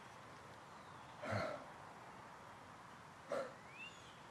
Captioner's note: Paul exhales